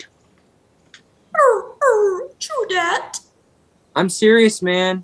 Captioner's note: whimpering